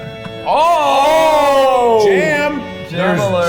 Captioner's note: giggling; in Unison